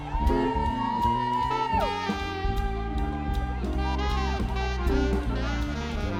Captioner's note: students laughing and cheering